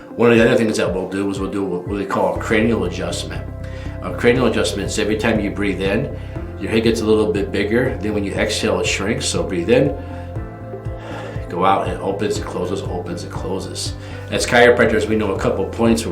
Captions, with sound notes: One of the other things that we'll do is we'll do what we call a cranial adjustment. Cranial adjustments, every time you breathe in, your head gets a little bit bigger. Then when you exhale, it shrinks. So breathe in, (inhales) go out, and it opens and closes, opens and closes. As chiropractors, we know a couple of points